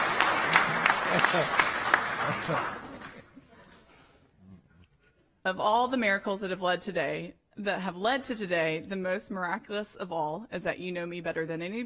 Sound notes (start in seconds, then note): 2.1 laughter; 3.2 applause